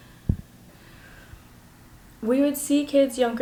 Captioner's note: sigh